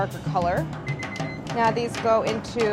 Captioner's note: timer beeping